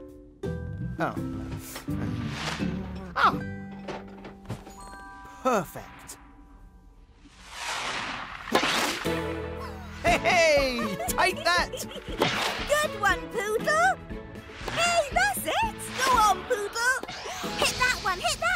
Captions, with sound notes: Ah. Perfect. -[chuckles] Take that. -[Oopsy giggling] Good one, Pootle. Hey, that’s it. Go on, Pootle. Hit that one, hit that one. Oooh, you got it, then.